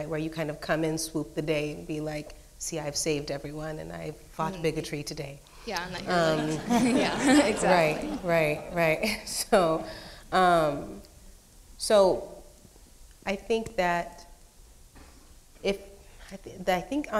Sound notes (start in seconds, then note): 5.9 audience laughing